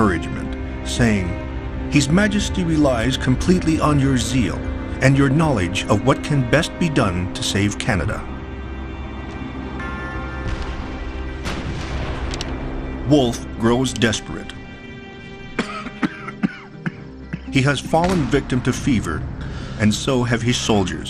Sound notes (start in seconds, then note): 9.7 bell tolls; 11.2 paper rustles; 15.6 Wolfe coughs